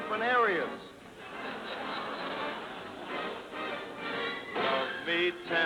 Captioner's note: laughter